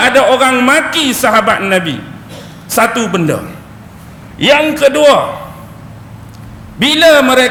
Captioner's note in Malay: berdeham